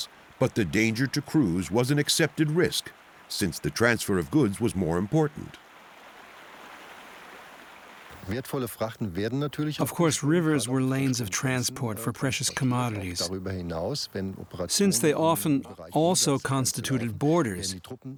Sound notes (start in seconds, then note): 8.3 speaking German